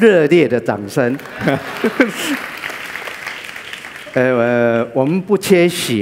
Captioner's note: applause